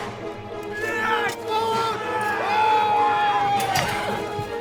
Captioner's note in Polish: kozak i porucznik krzyczą jednocześnie